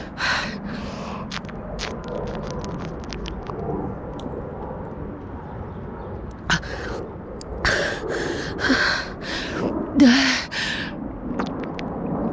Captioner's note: gags